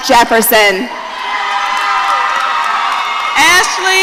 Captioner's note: audience cheering